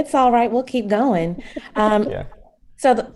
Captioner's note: risas